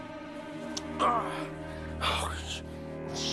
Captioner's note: groans